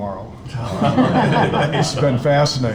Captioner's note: all laughing